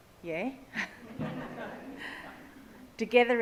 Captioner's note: audience laughs